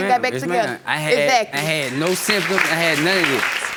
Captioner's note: applauding